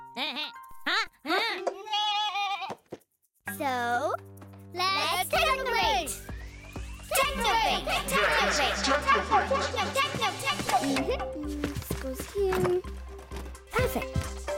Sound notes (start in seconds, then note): 0.1 bleating; 6.9 echoing